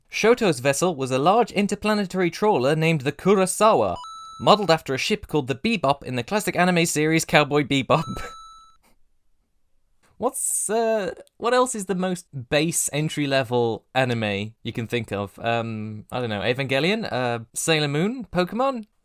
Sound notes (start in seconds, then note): 4.0 ding!; 8.0 ding!; 8.0 light laughter